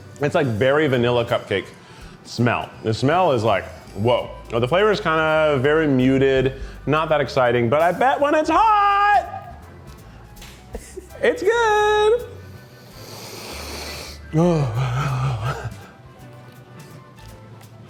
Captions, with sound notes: It's like berry vanilla cupcake smell. The smell is like, whoa. The flavor is kinda very muted. Not that exciting, but I bet when it's hot, it's good. (sniffs loudly) (lively music)